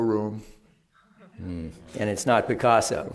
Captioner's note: laughter